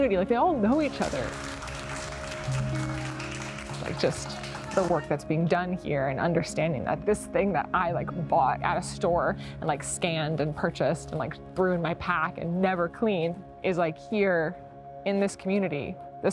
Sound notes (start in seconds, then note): 0.7 crowd clapping